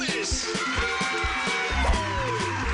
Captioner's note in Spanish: Aplausos